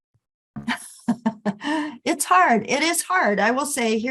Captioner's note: laughs